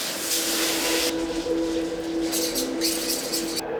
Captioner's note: water splashing; knives clank